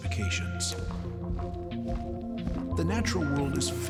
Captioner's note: footsteps falling